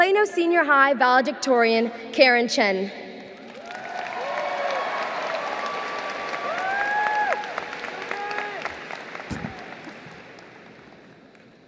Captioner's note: applause